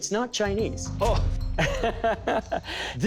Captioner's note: laughs